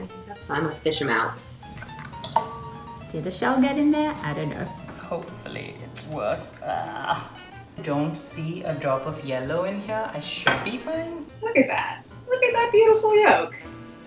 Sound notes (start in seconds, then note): 6.3 groans